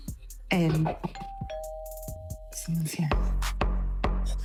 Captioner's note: doorbell rings